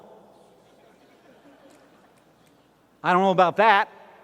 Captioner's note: laughter